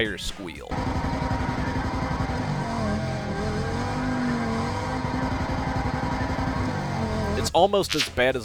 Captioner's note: sound of repetitive tire squealing